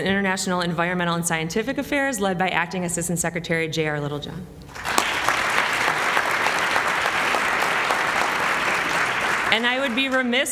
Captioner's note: applause